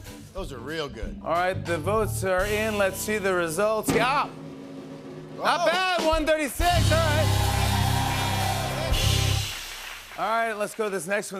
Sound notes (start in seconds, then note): 6.6 cheers and applause